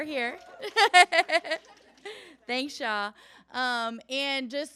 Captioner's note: laughs